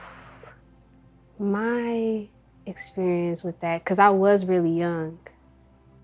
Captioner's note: sigh